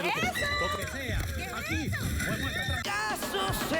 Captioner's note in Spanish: gritos y exclamaciones